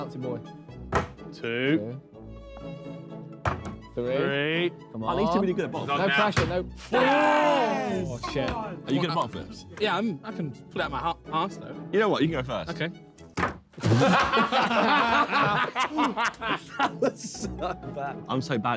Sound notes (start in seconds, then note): 6.9 men cheering; 13.8 men laughing